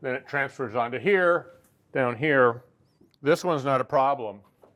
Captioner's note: none